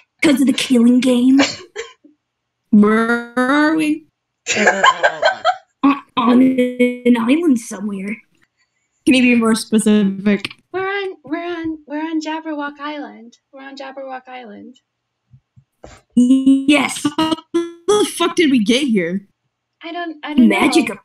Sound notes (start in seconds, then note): 2.9 glitching; 4.5 laughing; 6.0 glitching; 9.2 glitching; 16.2 glitching